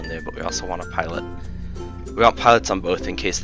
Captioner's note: annoyed exhale